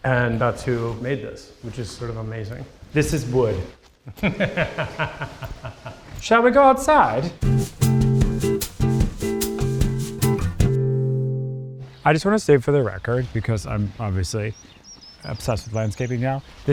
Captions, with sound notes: and that's who made this, which is sort of amazing. - This is wood. [Nate laughs] Shall we go outside? [mellow guitar music plays] I just wanna stay for the record, because I'm obviously obsessed with landscaping now: